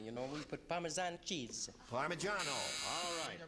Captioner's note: buzzer sounds